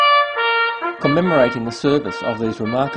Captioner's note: sound of trumpet; start sound of a male reporter